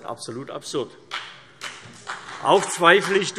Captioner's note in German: Beifall CDU und BÜNDNIS 90/DIE GRÜNEN